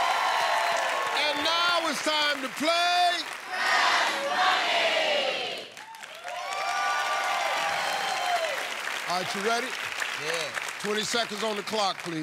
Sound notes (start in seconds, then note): 5.9 cheers and applause